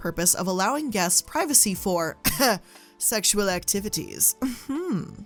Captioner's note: coughs